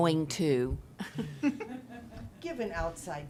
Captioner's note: chuckling